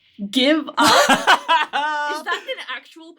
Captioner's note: laughing